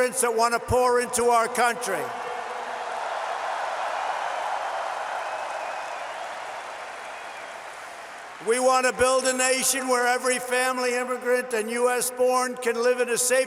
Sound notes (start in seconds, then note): 2.0 applause